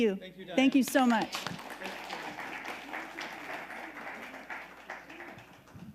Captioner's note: audience applauding